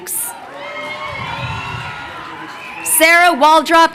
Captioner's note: crowd cheering